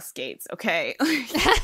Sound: hosts laugh

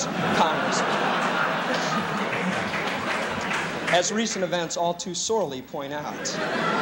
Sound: laughter; applause; laughter

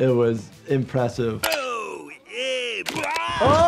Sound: Otto shouting delightedly, screaming

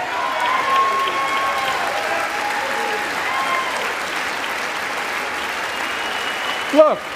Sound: applause

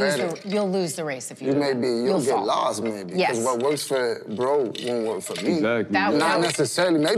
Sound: none

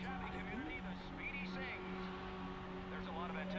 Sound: radio

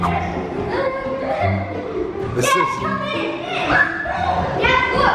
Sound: kids yelling and laughing

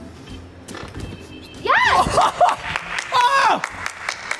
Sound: claps

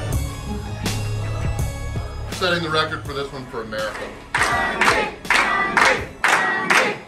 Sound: crowd

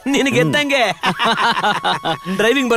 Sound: laughs

